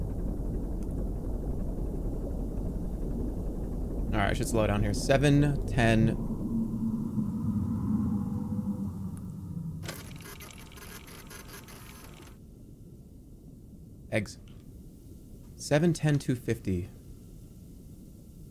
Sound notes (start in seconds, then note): 7.9 spooky sound; 9.5 machine whirring